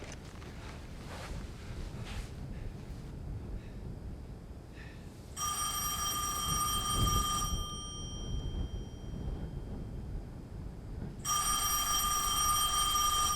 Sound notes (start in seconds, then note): 0.3 Bill exhales; 5.4 telephone ringing